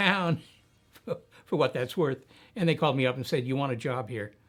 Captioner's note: chuckling